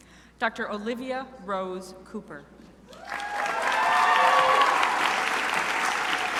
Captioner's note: crowd applauding